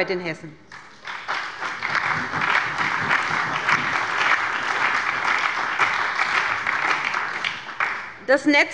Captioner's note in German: Allgemeiner Beifall